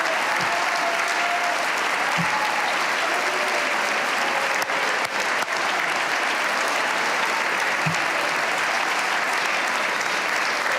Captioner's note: cheers and applause